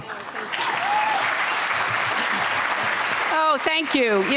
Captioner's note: applause